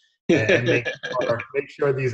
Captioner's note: laughing